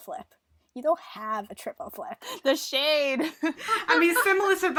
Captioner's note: sarcastically